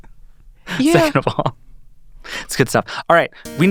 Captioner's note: chuckling